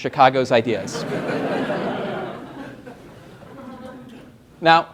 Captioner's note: laughter